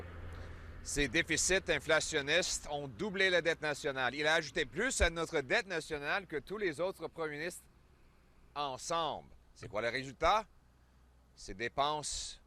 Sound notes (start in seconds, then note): 0.9 French